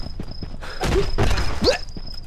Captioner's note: thudding